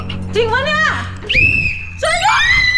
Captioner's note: whistle blowing continues